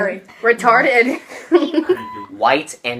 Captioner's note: laughter